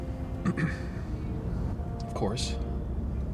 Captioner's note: throat clears